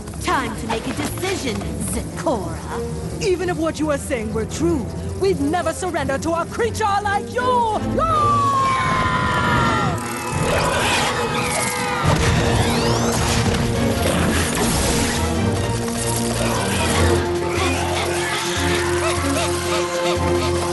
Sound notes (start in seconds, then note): 7.9 war cries; 12.0 crashing; 17.4 panting